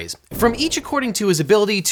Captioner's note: air whooshing